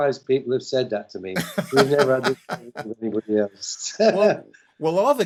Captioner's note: laughter